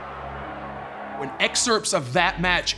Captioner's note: crowd cheering